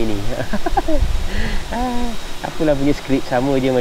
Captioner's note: laughs